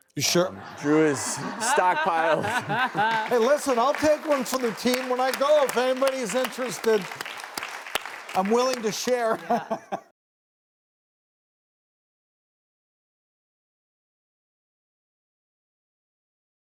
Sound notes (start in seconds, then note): 0.3 all laugh; 8.4 laughs